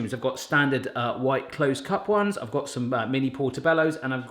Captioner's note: none